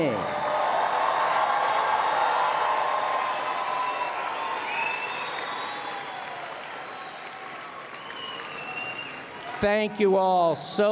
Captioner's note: applause and Cheering